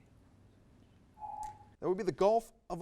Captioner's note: timer dings